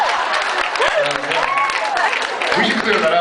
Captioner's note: cheers, applauds; laughs, cheers, applauds; cheers, applauds